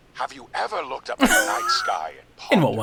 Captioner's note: laughing